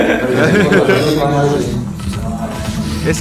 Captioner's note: cheers